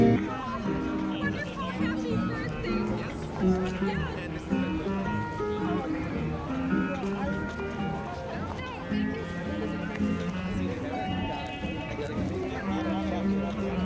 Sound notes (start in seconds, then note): 1.7 indistinct chatter